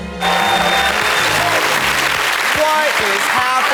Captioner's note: audience applauds